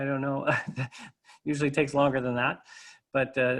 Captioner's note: laughter